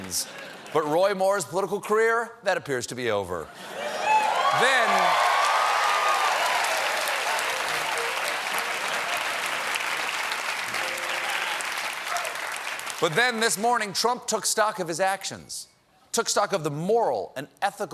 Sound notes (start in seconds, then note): 3.7 cheers and applause